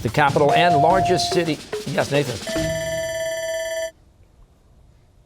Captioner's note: bell ringing